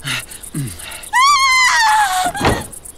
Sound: footsteps scraping; man grunting; woman screams; shutters clunk

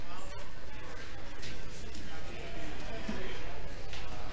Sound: congregation chattering

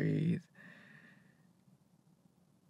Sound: breath

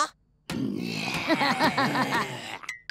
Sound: laughing

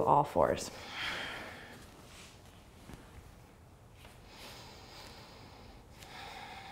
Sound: breathing

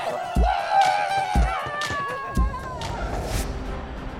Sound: screaming

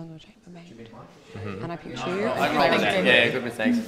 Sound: whispers

